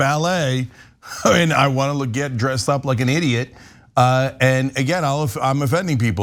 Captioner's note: laugh